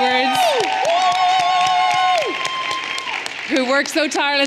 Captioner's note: everyone cheering and applauding